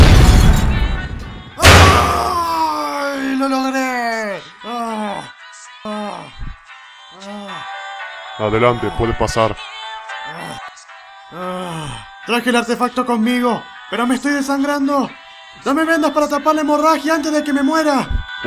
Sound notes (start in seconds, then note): 1.6 scream; 5.8 exhausted sighing; 11.4 still sighing